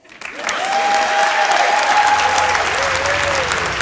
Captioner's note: applause